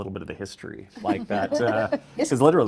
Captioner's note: attendees laughing